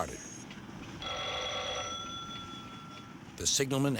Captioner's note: phone rings